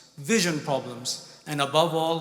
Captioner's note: none